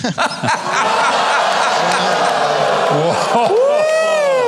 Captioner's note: audience groans